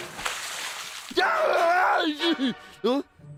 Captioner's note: screaming